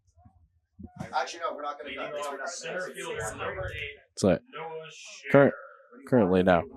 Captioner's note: background chatter